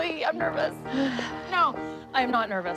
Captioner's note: Chloe sighs